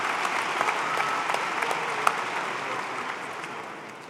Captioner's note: applause